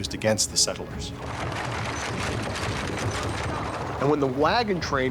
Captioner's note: wagon rattling